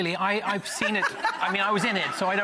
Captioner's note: laughing